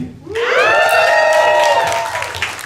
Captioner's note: enthusiastic yelps